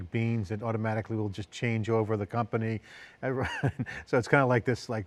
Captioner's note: laughs